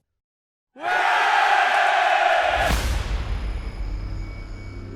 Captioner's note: crowd cheering